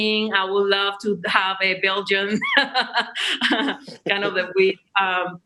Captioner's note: laughs